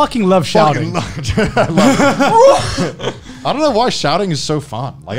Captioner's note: laughing